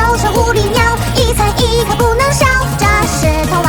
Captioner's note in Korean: 후~